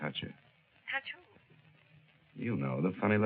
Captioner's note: on phone